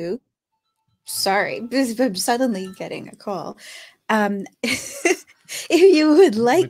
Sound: chuckles

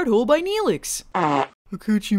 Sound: farts

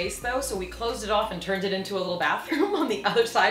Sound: chuckles

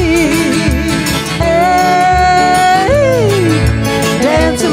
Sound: yelling

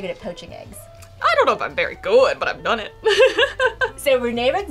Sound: laughs

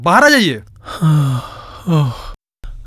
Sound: sighs

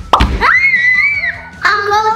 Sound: screams

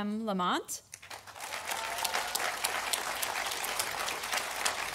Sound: audience applauding

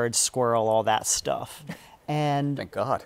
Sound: chuckles

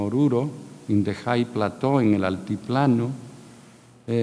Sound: speaking in a foreign language

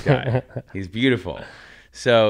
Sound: laughs

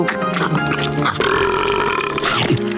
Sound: belching

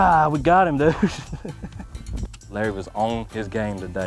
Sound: chuckles

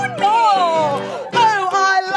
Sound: exclaiming

